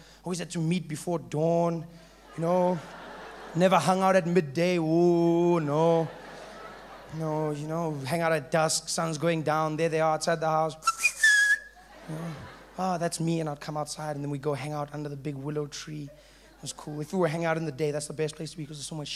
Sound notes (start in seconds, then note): 10.8 whistling